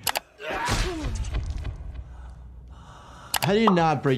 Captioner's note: Green Goblin and Spider-Man grunting